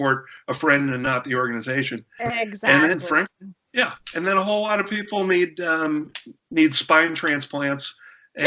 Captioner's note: laughter